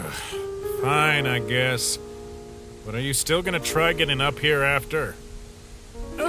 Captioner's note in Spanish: suspiro